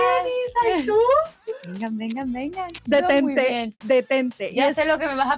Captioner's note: laughs